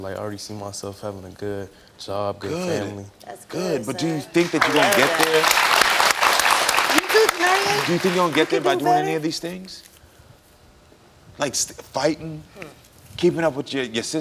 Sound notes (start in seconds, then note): 7.0 audience applauding